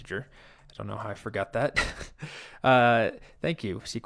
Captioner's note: chuckles